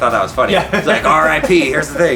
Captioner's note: laughs